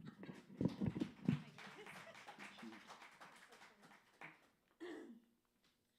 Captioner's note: laughter; applause